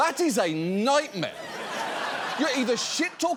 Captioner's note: audience laughs